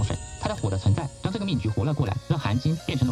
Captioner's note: fire